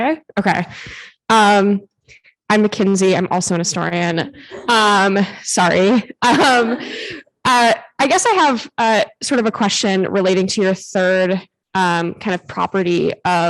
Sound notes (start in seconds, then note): 5.9 chuckles; 6.3 audience laughing